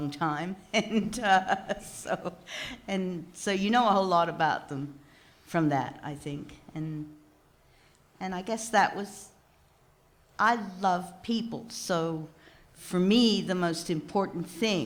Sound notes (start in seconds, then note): 0.7 laughs